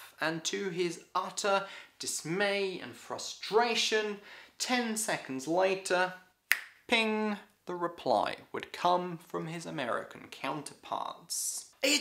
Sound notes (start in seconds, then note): 6.5 fingers snapping